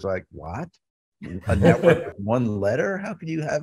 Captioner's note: laughing